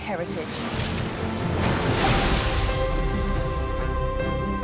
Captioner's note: water crashing